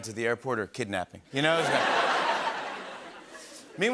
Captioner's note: laughter